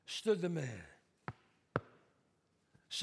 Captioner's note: footsteps